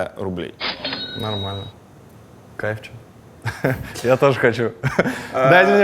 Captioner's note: chuckles